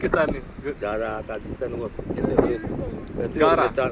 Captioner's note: man continues in Tajik